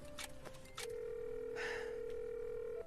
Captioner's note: line rings; sighs